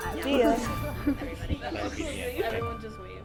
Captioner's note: both chuckling